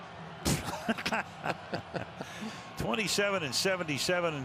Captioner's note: laughter